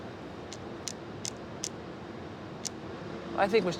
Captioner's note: flags tapping on rail